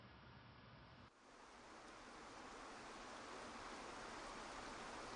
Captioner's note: waterfall splashing